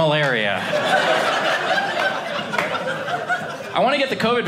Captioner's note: audience laughing